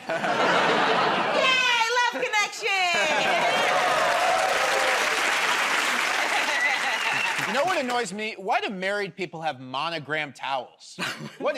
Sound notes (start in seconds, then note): 5.8 cheers and applause